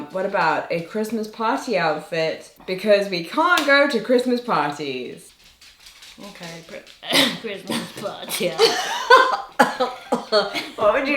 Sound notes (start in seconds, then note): 7.0 coughs; 8.8 laughs